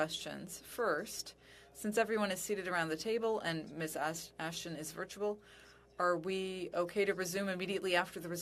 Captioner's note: speaking french